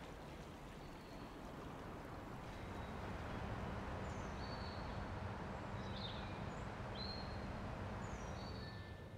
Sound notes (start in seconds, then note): 4.4 birds chirping